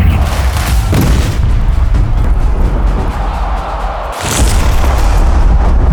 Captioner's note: explosion thumps